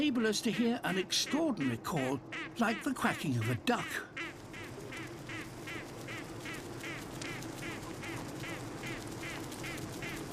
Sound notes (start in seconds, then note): 4.2 repeated quacks